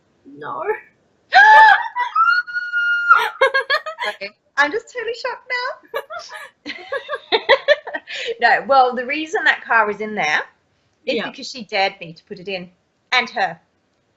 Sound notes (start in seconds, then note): 3.9 gasps; 5.9 laughs